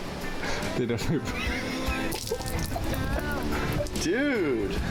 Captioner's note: laughing